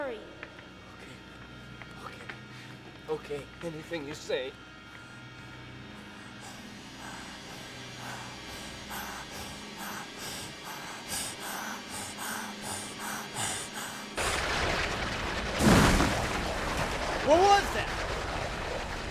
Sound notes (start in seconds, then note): 6.2 panting Heavily; 14.2 churning Sound Continues,</i> <i> Explosion